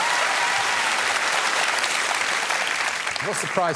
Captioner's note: applause